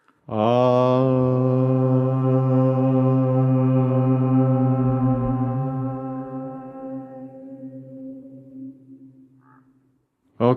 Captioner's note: chanting